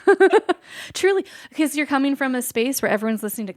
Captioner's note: laughs